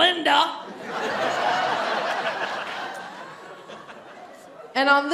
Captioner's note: audience laughing